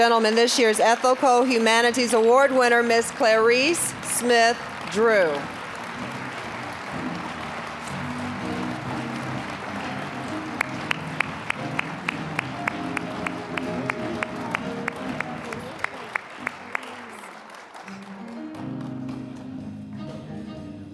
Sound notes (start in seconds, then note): 5.5 mellow jazzy music; 5.6 applause; 17.8 mellow jazzy music